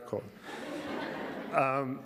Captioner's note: laughter